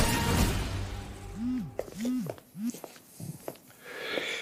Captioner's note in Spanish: Suena el celular